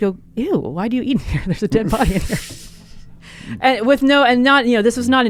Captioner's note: both laughing